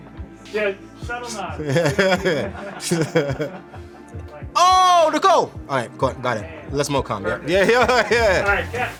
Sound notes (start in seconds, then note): 1.5 laughing; 2.6 crew laughing; 7.4 laughing